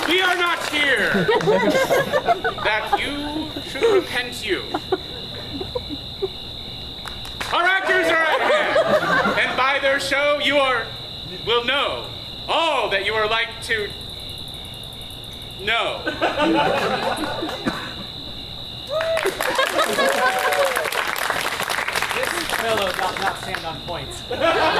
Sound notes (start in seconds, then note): 16.0 audience laughs; 18.8 royals applaud; 18.8 audience cheers